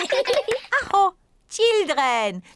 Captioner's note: all laugh; claps hands; exclaims